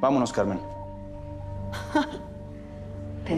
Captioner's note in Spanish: Ríe